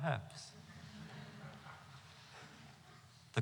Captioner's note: laughter